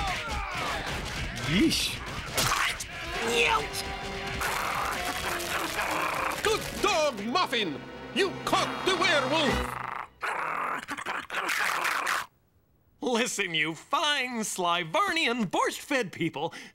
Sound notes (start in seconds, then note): 2.2 squelching